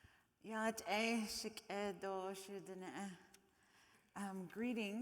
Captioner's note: speaking in foreign language